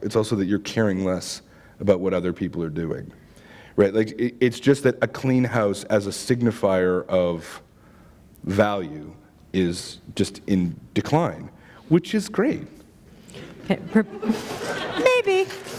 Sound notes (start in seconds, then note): 13.8 laughter